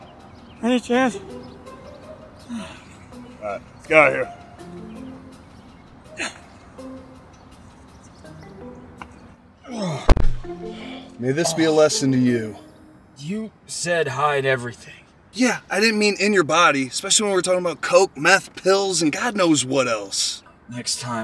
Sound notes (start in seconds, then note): 6.0 ehh; 9.6 Herman groans